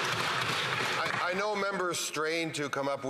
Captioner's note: some Applause